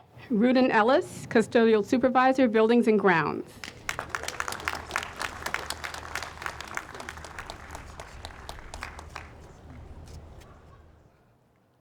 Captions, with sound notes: - Ruden Ellis, Cusodial supervisor, Buildings and Grounds. (audience applauds)